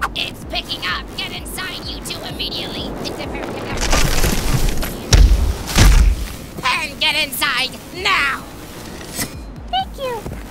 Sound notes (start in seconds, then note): none